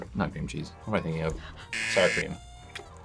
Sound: buzzer

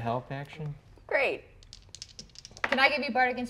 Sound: dice rattling

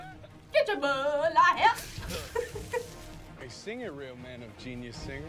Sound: laughs

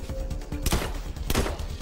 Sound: gunshots

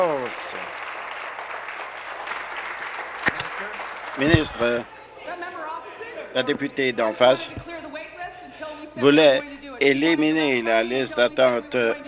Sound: applause

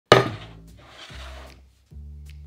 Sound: board sliding; jazz music playing in background throughout video

